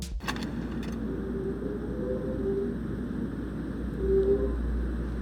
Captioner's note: eerie whistling sound playing